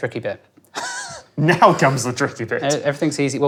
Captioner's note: chuckles